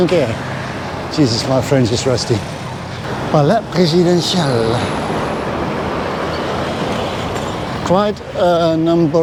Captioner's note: foreign language